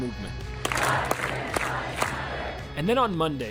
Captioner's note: chanting